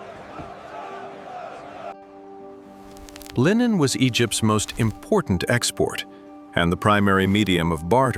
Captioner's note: crowd chants